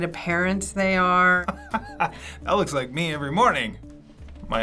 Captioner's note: chuckles